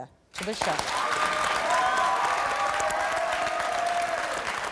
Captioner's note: crowd cheering